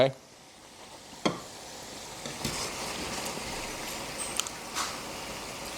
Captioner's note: sizzling